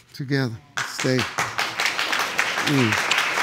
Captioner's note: applause